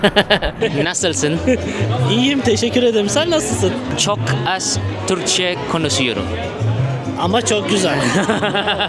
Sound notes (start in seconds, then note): 1.3 Turkish; 3.4 Turkish; 5.9 Turkish; 7.8 Turkish